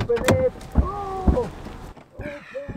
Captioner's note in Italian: urletto con voce strozzata; altre lamentele smorzate